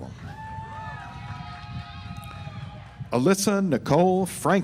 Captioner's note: audience applauds